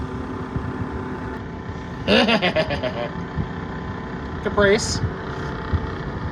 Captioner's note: snickers